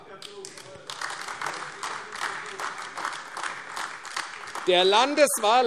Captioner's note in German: Beifall : Da gehören Sie nicht dazu!